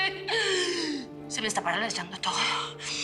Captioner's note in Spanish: Sollozos